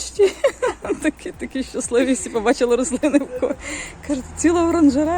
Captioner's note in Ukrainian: сміх